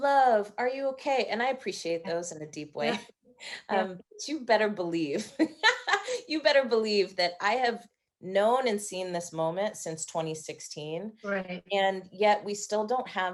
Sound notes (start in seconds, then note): 6.6 laughing